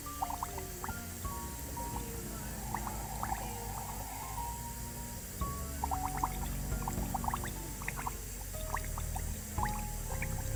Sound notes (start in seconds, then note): 2.1 tap water continues to rush